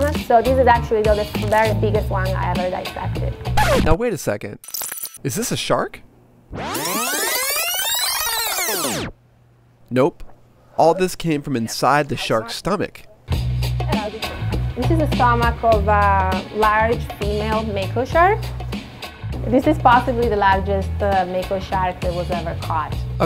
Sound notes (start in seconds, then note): 3.5 record scratching; 6.5 tape rewinding